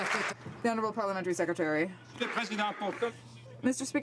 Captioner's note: some Applause